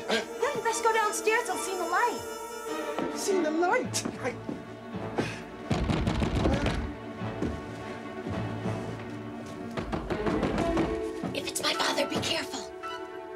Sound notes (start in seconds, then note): 5.6 knocking again